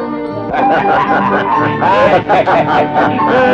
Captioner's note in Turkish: kahkahalar